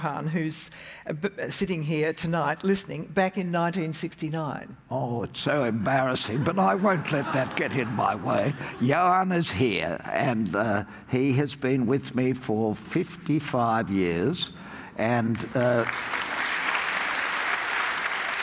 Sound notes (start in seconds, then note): 6.2 audience laughs; 15.2 audience applauds